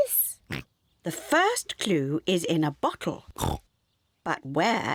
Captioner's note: oinks; oinks